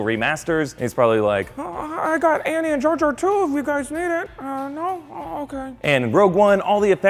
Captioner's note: high voice